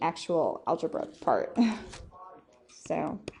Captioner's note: laughs